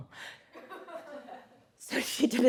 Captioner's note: audience laughs